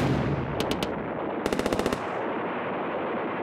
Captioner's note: explosions and gunfire